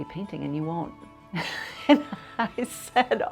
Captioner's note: laughs